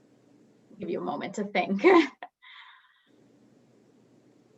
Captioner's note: chuckles